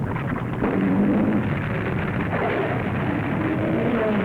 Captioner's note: creature roaring